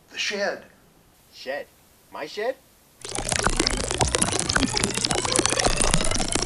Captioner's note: chirping